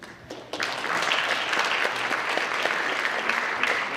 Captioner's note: audience applauds